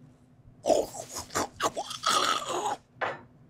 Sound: chewing

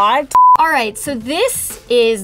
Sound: beep

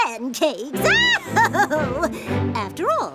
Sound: laughing

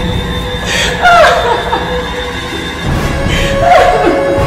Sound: tense music; Ciara cries

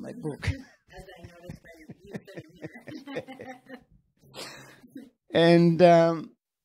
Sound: laughs

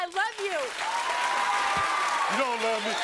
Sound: audience cheering

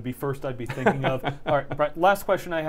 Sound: laughs

